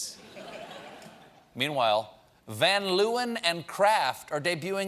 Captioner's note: laughter